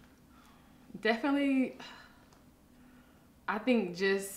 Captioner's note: deep breath